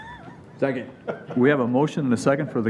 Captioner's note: chuckling